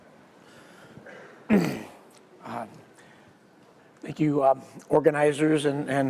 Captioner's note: cough